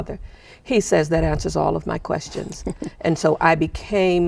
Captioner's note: chuckling